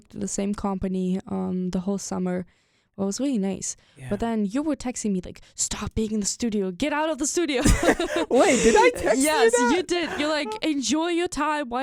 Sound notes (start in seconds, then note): 7.6 both laugh